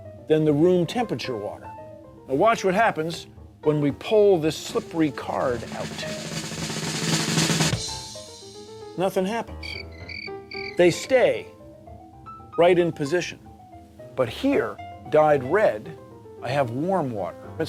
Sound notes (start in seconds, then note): 4.6 drumroll; 9.6 crickets chirping